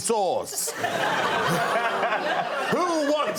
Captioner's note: laughter